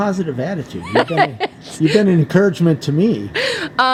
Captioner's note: laughing